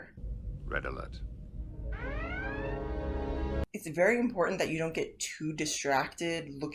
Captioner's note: alarms blaring